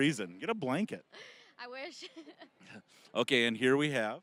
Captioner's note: laughing